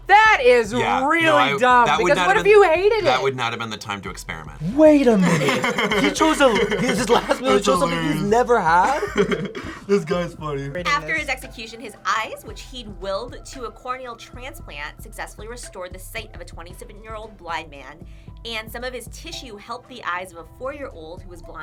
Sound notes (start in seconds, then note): 4.8 laughs